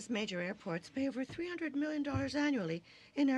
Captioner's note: speaking in french